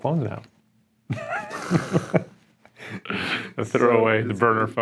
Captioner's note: laughs